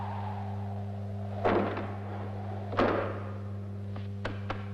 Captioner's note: door thudding